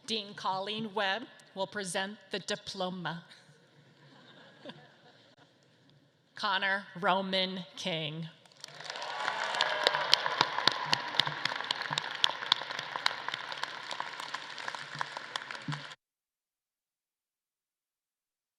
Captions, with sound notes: Dean Colleen Webb will present the diploma. (audience laughs) Connor Roma King. (audience claps and cheers)